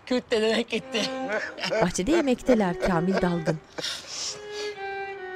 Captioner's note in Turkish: Gülme sesleri